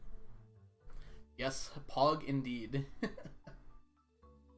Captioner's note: chuckles